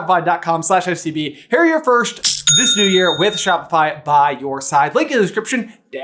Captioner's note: cha-ching!